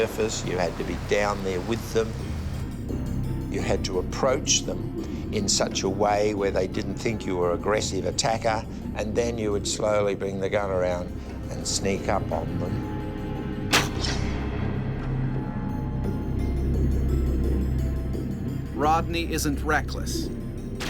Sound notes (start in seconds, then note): 13.8 snap; 18.8 voiceover